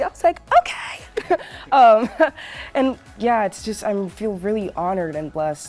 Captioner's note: chuckles